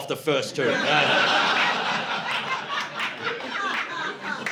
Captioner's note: laughter